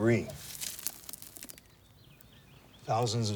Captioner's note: dirt crumbles